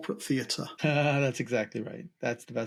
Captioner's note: laughs